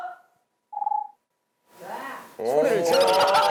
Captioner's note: wah